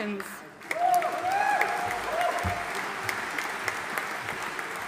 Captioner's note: audience cheering and applauding